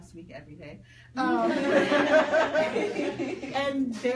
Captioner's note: people laugh